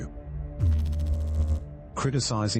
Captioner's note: electrical noise